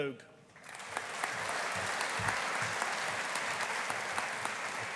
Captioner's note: audience applauding